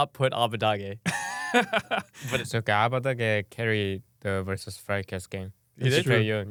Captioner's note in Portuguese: risos